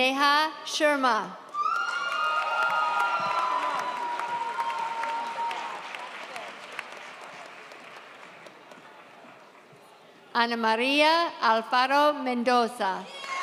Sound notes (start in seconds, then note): 1.5 audience cheers